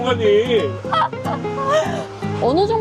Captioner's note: laughter